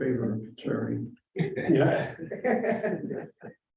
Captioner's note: laughter